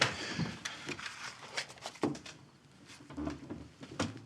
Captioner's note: chair clatters